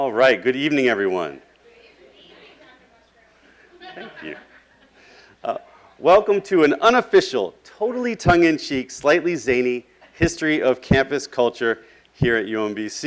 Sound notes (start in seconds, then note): 1.7 classroom chatter